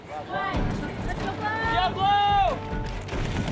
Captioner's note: cheering